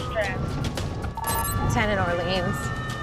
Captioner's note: beeping; sirens wailing